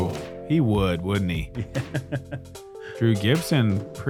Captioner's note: laughs